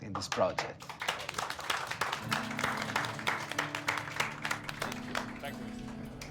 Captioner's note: all clapping; light acoustic guitar music